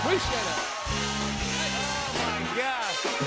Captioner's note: cheers and applause